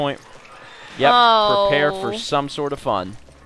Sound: sound of horror

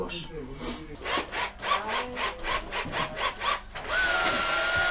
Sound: machine whirring

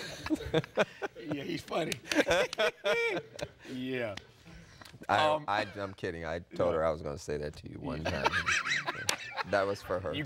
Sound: laughter

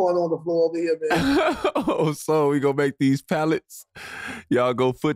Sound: laughing

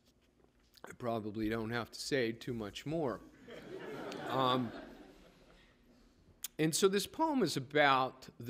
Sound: laughter

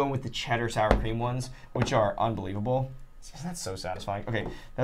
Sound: blade knocking

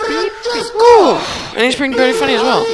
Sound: villager makes annoying noise

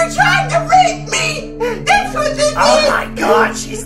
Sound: gasp

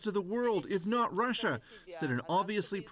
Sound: speaking russian

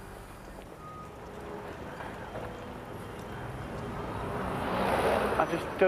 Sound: car whooshing

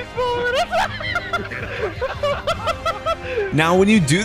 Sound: laughs

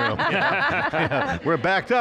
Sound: laughing

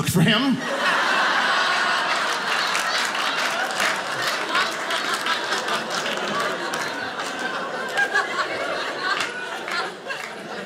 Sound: audience laughing

